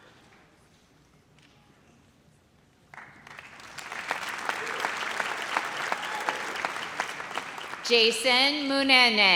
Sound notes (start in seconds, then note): 2.9 audience applauds